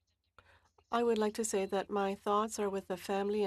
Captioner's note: speaking French